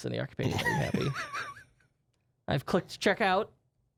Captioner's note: laughing